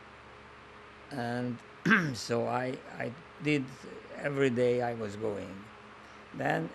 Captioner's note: clears throat